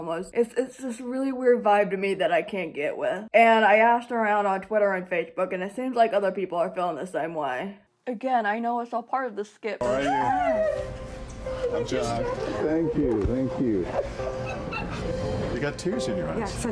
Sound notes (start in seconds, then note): 9.8 squeals